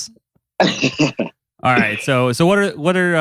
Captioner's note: laughs